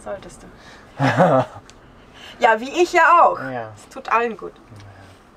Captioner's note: laughs